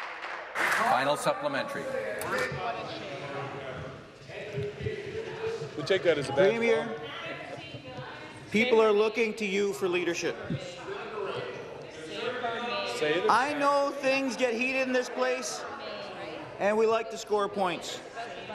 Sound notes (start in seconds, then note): 1.0 some Applause